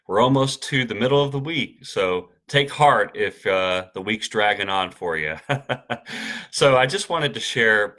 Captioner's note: chuckles